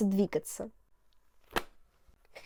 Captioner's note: clap